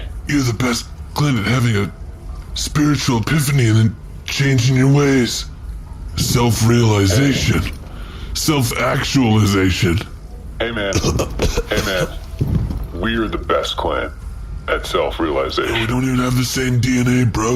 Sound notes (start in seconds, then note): 10.8 coughs